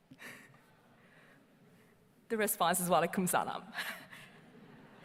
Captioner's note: chuckles